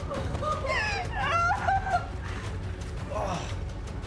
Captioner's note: Maria sobs; Steve groaning